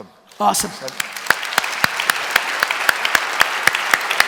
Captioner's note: applause